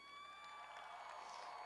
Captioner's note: cheers and applause